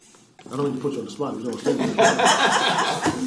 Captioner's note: laughter